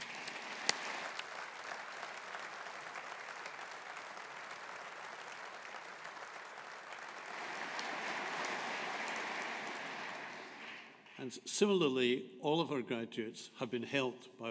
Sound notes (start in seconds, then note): 3.1 audience applauding